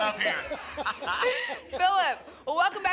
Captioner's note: laughter